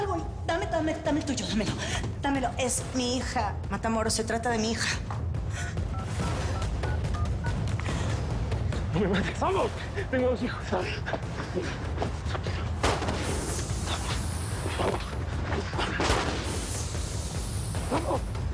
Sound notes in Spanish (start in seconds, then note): 5.9 Sonido al marcar; 12.8 Disparo; 15.9 Disparo